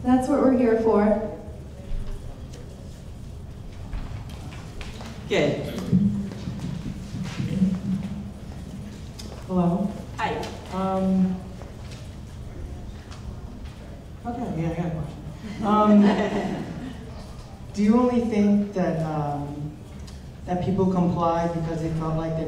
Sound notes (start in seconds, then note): 15.4 laughing